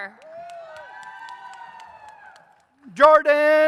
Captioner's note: audience cheers